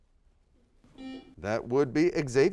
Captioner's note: buzzer sounds